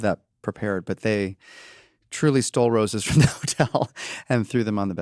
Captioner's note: chuckles